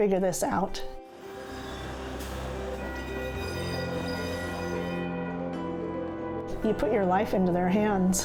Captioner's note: train sounds